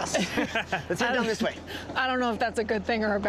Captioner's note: laughter